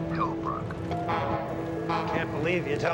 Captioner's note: horn toots